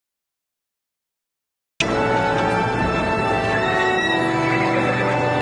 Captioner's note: horse neighing